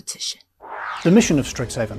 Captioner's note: air whooshing